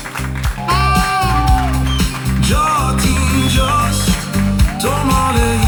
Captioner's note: applause and crowd